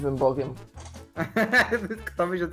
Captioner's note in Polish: autystyczny śmiech